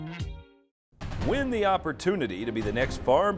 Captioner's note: voiceover